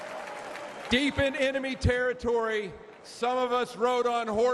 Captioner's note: applause